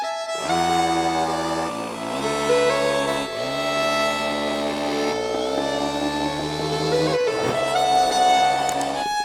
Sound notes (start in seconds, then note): 0.8 soft music; 2.5 drill whirring